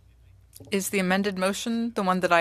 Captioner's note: speaking french